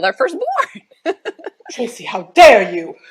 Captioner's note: laughs